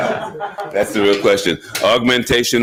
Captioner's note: audience laughing